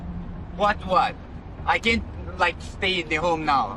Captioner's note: none